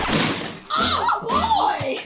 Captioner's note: record scratches